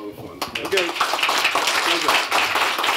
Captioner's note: applause